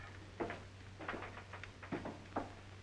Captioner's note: door opens